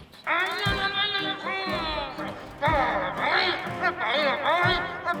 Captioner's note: announcer speaking gibberish